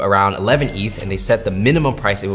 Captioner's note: cash register clinking